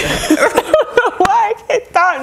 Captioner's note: laughing